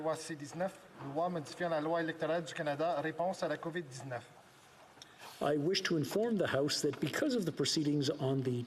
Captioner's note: speaking French